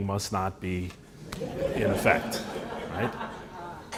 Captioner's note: laughter